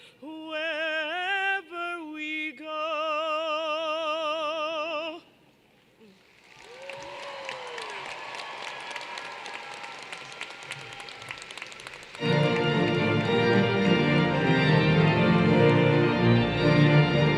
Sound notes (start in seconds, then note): 5.8 applause